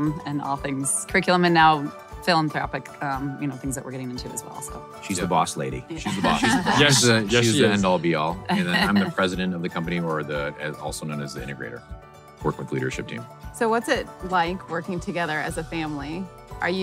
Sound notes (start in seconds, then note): 6.0 laughing